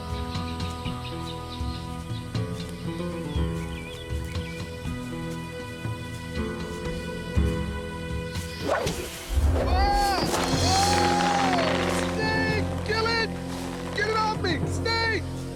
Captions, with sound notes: (dramatic music) (yelling) Snake, kill it! Get it off me, snake!